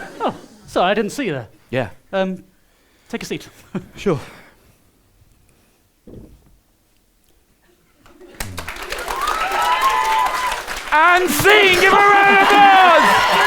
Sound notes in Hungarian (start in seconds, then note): 8.4 taps